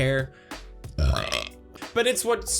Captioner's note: burps